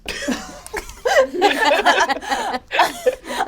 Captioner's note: all laugh